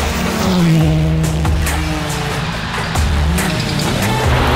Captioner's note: car engine revving; upbeat music